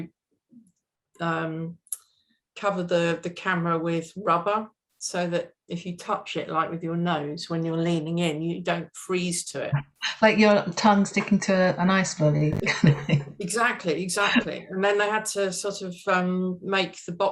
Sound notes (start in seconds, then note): 12.6 laughs